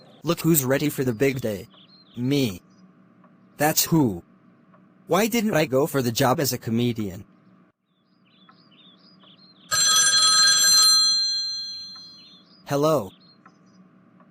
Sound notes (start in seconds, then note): 9.7 phone ringing